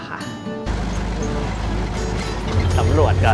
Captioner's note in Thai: เสียงรถยนต์